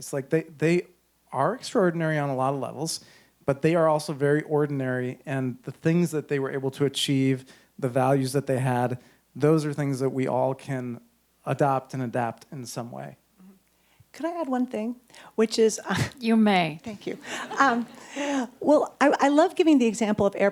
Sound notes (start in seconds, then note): 17.0 audience chuckles